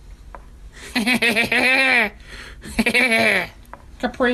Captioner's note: laughs